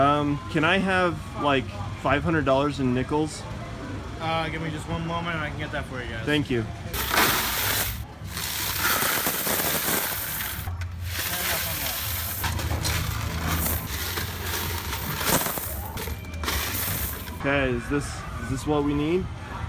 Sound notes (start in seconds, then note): 6.8 coins falling into bin